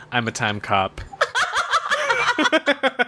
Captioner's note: laughs; laughs, claps